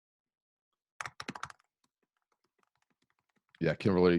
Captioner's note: keyboard clicking